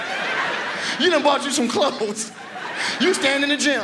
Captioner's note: audience laughs; chuckles